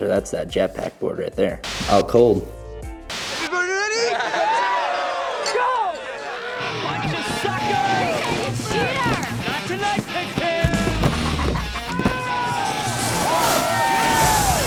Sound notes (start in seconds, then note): 4.4 snowboarders laughing and cheering; 8.7 crowd